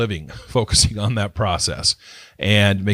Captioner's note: laughs